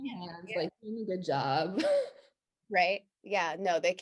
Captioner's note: laughs